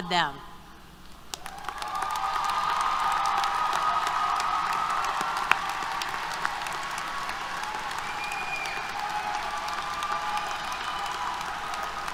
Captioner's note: applause, Cheers